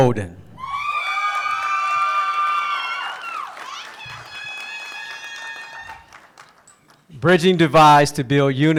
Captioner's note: applause